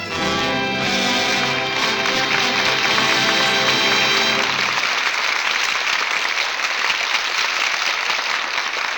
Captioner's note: applause